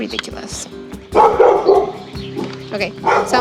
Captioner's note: Mila barking